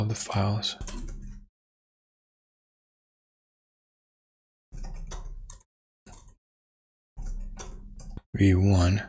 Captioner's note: blank Audio